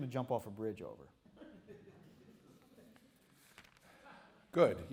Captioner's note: laughter